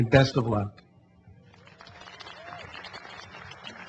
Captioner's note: applause